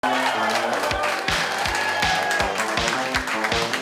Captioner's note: crowd cheering